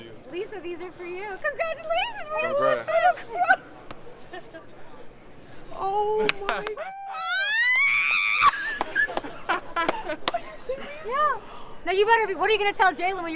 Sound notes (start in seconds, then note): 6.8 screaming; 8.5 laughing